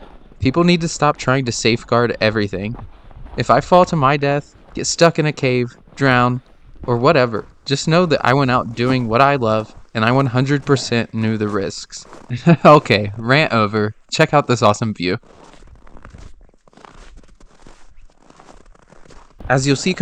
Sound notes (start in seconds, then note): 12.2 laughs